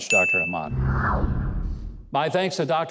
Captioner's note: logo swooshing